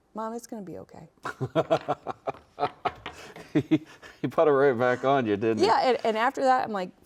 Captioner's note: laughs